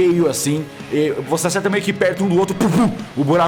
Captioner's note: pow